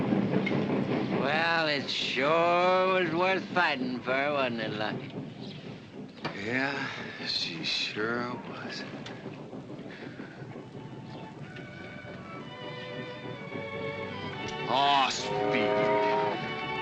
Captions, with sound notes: It sure was worth fighting, wasn't it, Lucky? [ SIGHING ] Yeah, she sure was. [ EVOCATIVE MUSIC ] Oh, Speedy.